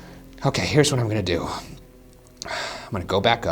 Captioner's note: exhales sharply